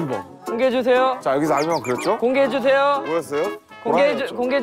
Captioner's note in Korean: 재잘재잘